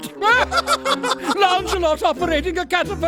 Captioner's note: laughing